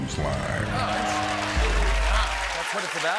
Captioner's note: cheers and applause